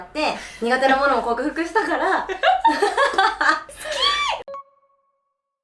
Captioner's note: laughs